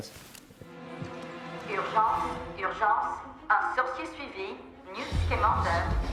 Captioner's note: speaking foreign language